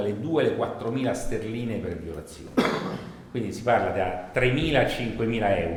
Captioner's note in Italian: colpo di tosse